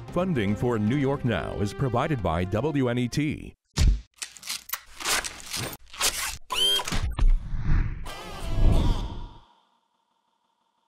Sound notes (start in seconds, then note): 4.1 tone whirring; 7.1 objects banging